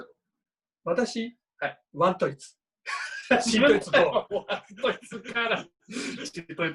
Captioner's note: both laugh